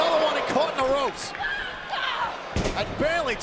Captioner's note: Asuka screams